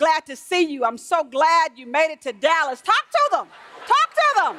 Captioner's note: laughter